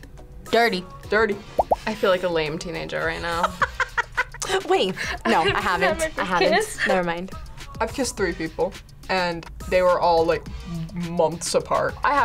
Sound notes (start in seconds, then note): 3.4 laughs; 4.3 gasps